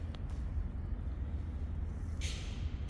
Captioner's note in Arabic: none